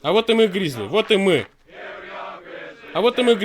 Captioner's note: clap clap